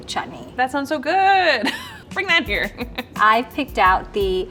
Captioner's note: chuckling